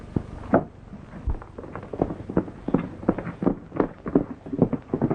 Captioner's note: horse galloping